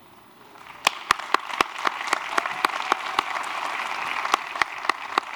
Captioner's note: applause